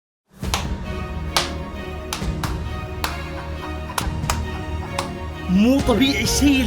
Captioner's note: clapping